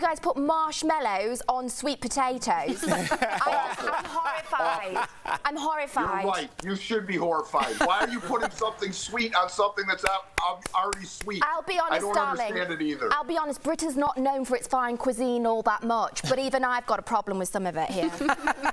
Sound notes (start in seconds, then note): 7.6 laughter